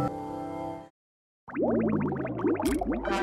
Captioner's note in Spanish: sonido de burbujas; sonido de trompeta